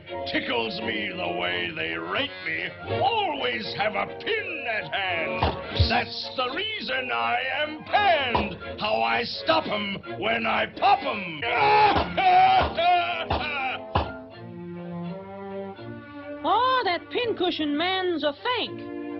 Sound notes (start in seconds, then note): 5.2 air hisses; 5.4 balloon pops; 11.5 balloons popping; 11.6 Pin Cushion Man laughing; 14.9 gentle music